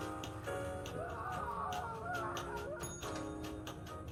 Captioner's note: music on radio; distant screaming